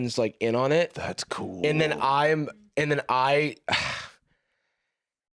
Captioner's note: sighs